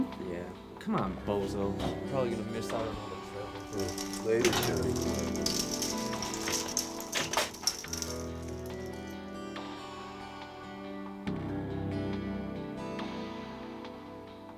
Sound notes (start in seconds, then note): 5.8 bead curtain rattling; 8.4 somber music continues